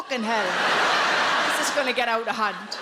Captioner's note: audience laughs